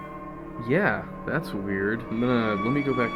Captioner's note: voiceover